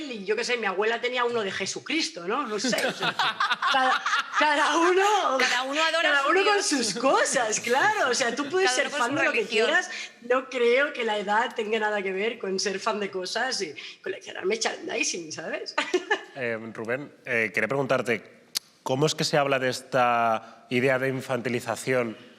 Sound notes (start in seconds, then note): 2.5 laughing